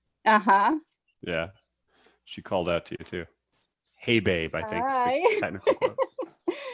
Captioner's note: laughs